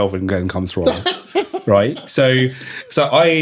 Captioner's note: laughing